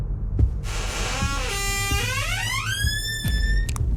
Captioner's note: door creaking